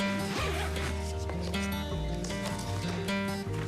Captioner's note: zipper closing bag